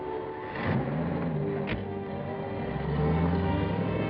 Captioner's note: truck whirring